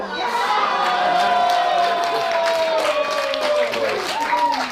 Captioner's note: audience cheers